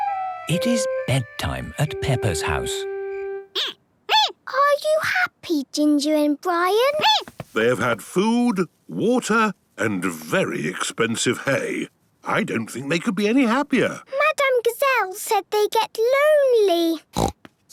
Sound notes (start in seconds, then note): 3.2 squeaking; 17.1 snorting